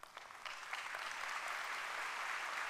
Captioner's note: applause